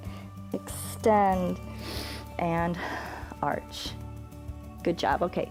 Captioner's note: inhales